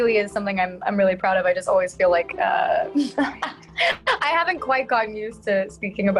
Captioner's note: laughs